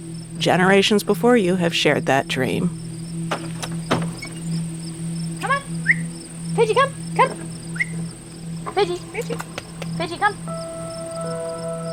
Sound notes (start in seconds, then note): 3.2 door creaks open; 7.7 whistles